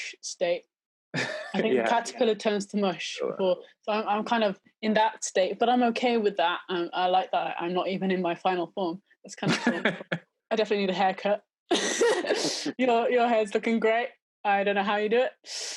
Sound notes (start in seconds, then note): 0.0 laughing; 9.5 laughing; 11.8 laughing